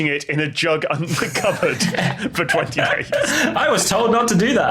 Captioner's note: group laughing